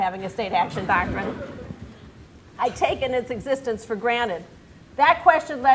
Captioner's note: laughter